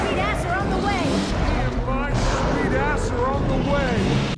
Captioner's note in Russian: замедленно